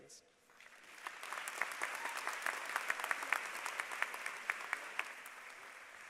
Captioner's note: applause